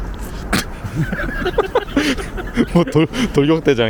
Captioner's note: laughs